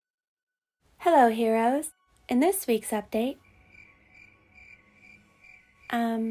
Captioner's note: cricket sounds